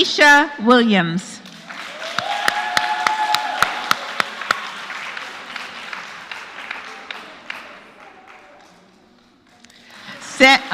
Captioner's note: applause